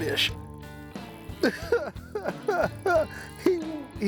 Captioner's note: chuckling